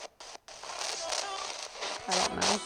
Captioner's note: spirit box voice